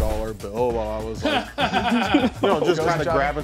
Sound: everyone laughs

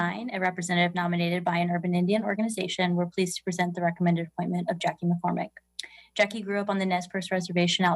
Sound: speaking non-english

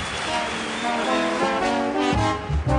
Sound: audience applauds; upbeat jazz music

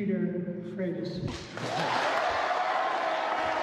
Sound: applause

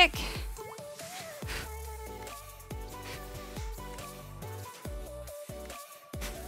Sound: soft upbeat music; breathes

